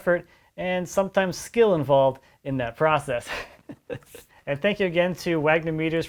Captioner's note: laughs